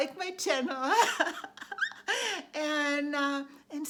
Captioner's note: laughs